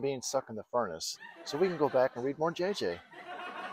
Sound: laughter

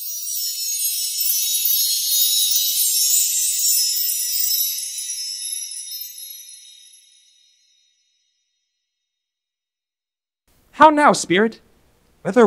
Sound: chimes

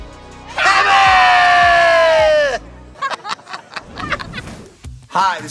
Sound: all laughing

